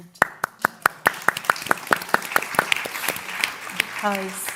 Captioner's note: applause